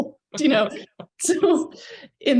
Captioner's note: chuckles